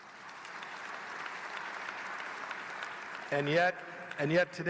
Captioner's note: applause